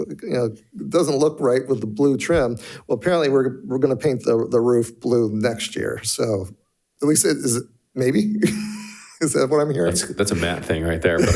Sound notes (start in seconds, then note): 8.5 laughs